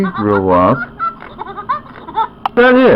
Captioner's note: Lilly laughs